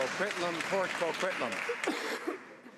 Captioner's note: some Applause